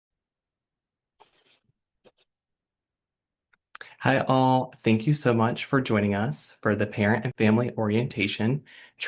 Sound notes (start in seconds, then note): 1.2 sketching sound